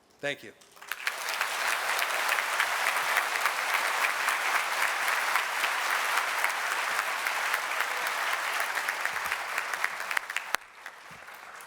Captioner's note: applause